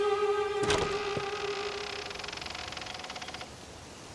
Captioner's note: creak